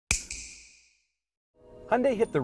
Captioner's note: snap